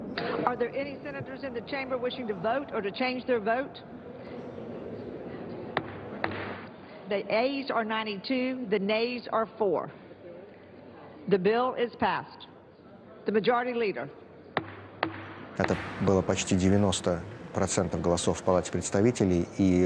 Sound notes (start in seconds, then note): 5.7 banging gavel; 14.4 Vladimir speaking Russian; 14.6 banging gavel